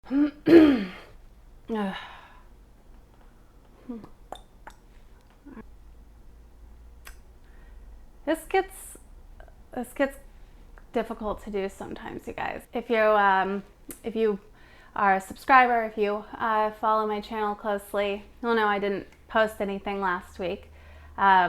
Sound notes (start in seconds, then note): 0.1 clears throat; 3.9 tongue clicking